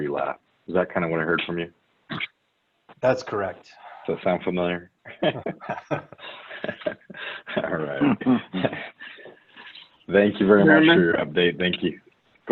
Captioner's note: chuckle